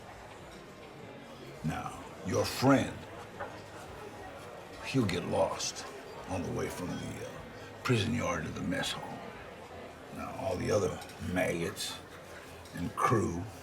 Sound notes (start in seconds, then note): none